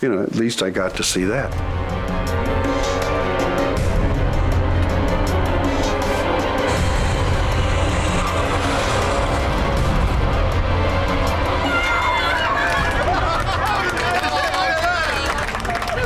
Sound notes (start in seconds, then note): 2.1 tense music; 7.5 plane roaring; 11.5 passengers cheering